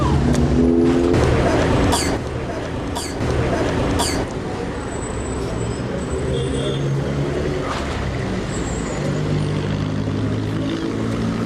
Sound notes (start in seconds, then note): 0.0 speaking spanish; 1.8 coughs